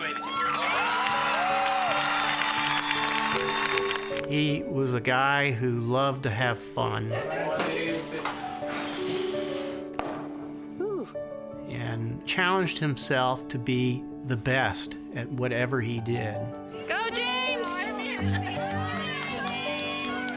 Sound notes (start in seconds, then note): 0.0 cheering; 7.5 blowing out candles; 9.9 pop; 17.2 cheering